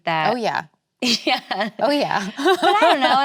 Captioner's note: laughs